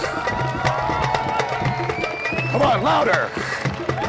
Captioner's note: audience cheering and applauding